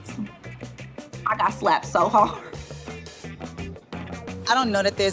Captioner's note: laughing